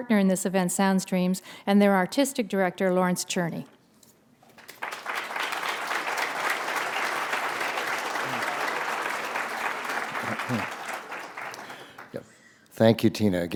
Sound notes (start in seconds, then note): 4.4 applause